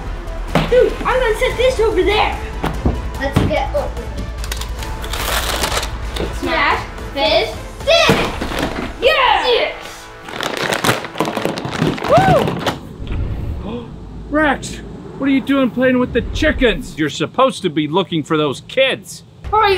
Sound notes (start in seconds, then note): 4.4 wrapper crinkling; 9.9 wrappers crinkling